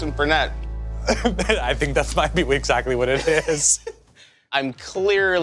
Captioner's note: laughs